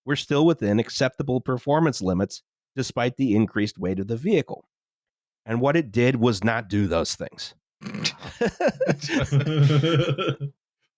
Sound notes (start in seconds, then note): 8.1 laughter; 8.1 snorts